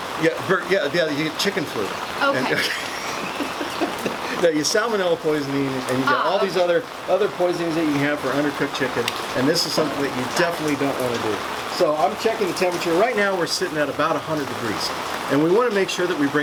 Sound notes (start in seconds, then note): 2.2 laughs